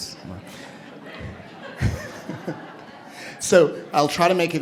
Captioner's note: laughter